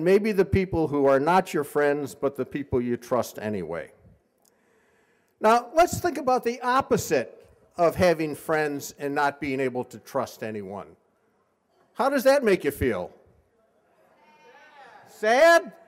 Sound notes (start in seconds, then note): none